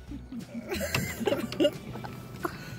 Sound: is laughing

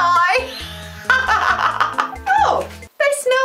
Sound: laughter

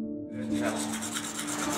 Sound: brushing

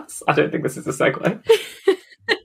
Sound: laughing; laughs

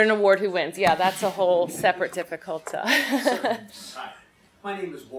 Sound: laughs

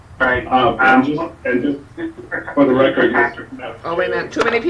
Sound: people speaking in the background

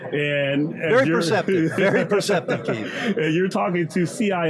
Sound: laughs

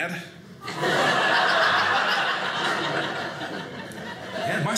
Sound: audience laughing

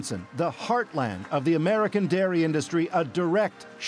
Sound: applause

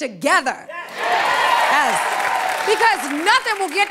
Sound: cheering

